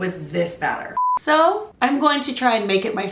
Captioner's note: beep